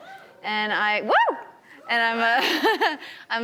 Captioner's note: audience cheers